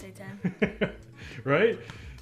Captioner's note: laughing